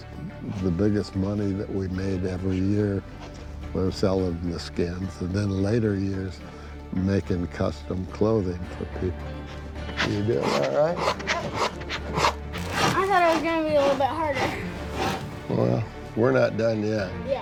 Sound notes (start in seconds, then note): 11.3 rasping